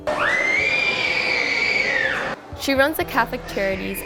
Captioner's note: child screaming